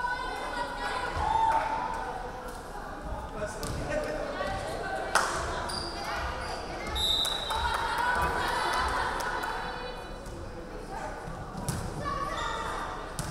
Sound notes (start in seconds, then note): 6.9 referee whistling